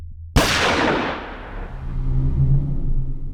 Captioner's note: gun fire